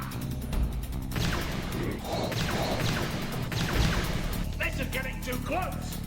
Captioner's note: lasers blasting